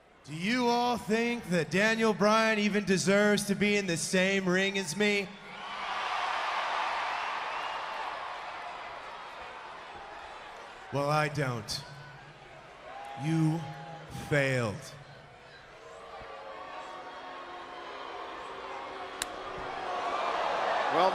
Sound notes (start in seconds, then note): 5.3 crowd cheering